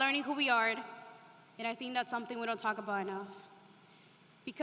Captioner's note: spanish